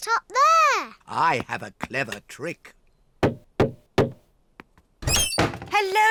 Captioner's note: knocks